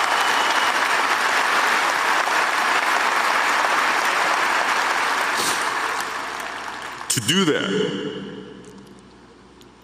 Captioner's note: applause